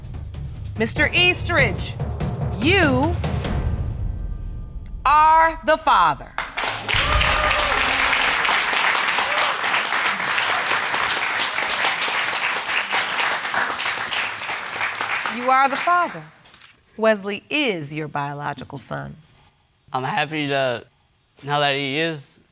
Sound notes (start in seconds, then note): 6.4 cheering and applause